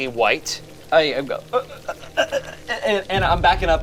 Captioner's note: stutters